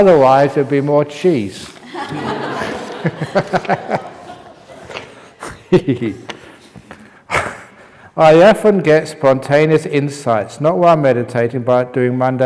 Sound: laughter

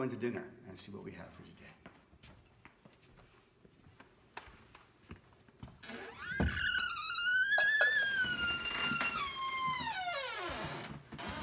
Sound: very creaky door

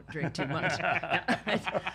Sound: all laughing

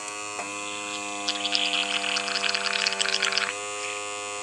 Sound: mixture bubbling

